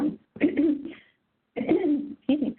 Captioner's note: clearing throat